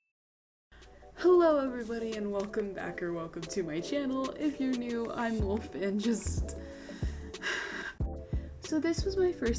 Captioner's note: sigh